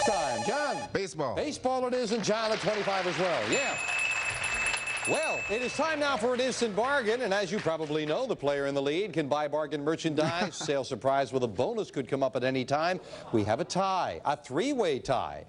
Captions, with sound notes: -Baseball it is, and John at 25 as well, yeah. (bell ringing) Well, it is time now for an Instant Bargain and as you probably know, the player in the lead can buy bargain merchandise. Sale Surprise with a bonus could come up at any time. We have a tie. A three-way tie. Only one of you can have this.